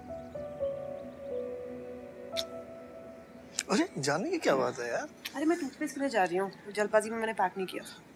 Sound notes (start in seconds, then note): 2.3 Kisses